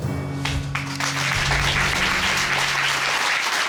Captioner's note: applause